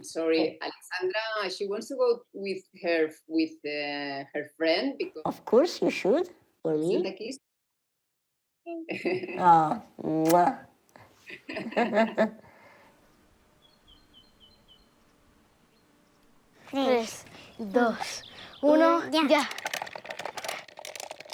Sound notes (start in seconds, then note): 11.2 laugh